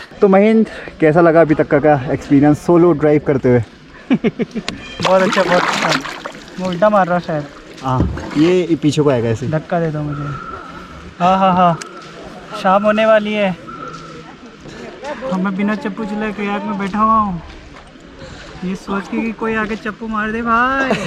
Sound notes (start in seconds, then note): 4.0 laughs